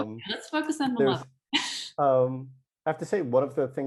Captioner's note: chuckles